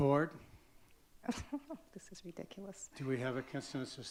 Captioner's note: laughs